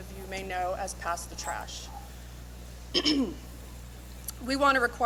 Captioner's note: clears throat